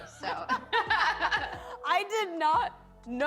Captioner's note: laughter